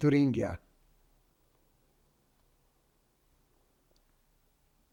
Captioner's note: pauses 6 seconds